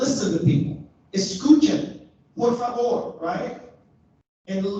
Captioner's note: speaks a foreign language